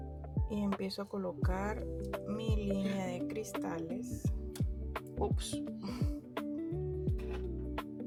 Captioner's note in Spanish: resoplido